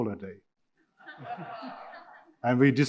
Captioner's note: audience laughing